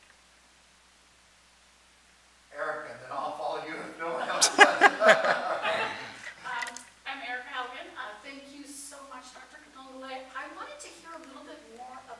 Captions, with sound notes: Erica, then I'll follow you if no one else- (chuckles) (attendees laugh) - I'm Erica Haugen, thank you so much, Dr. Katongole. I wanted to hear a little bit more